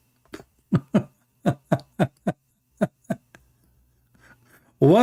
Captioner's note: Ketawa